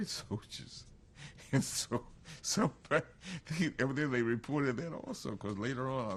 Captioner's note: laughs